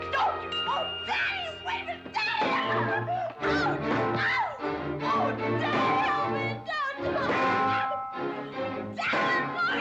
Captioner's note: Becky screaming and yelling